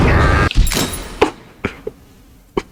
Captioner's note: laughs to myself